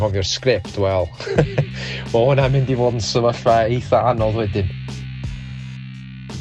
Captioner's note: laughs